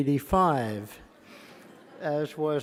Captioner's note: laughter